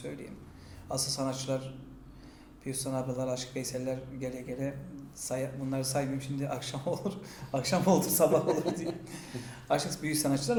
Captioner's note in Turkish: gülerler